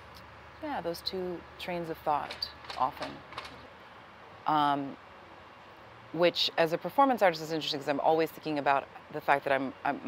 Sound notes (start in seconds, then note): none